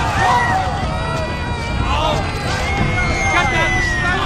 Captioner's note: baby cries